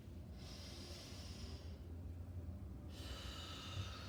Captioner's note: breathing deeply